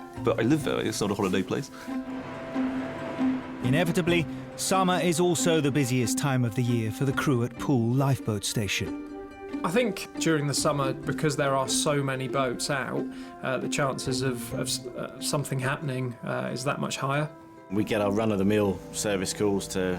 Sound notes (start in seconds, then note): 2.5 boat engine revving